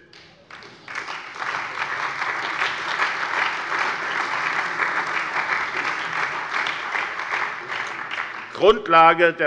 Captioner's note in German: Beifall bei der SPD, der CDU und dem BÜNDNIS 90/DIE GRÜNEN